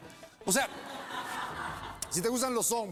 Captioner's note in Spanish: risas